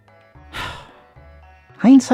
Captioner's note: sighs